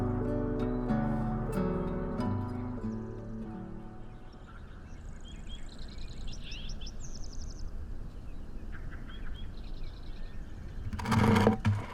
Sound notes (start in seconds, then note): 5.4 birds chirping